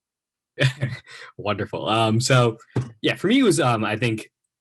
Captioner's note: laughs